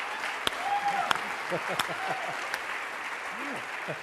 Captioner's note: enters, clapping